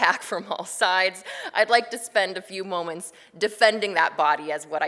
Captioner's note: laughs